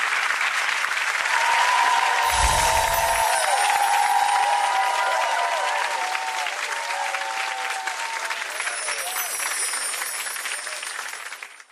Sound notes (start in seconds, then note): 0.2 audience applauds and cheers; 8.5 chimes tinkle